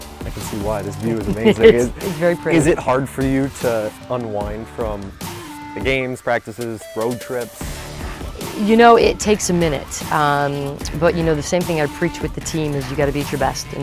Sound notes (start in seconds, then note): 0.8 laughs